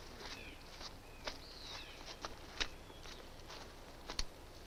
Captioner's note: distant birds chirp